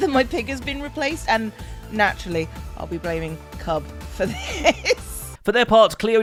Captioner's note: laughs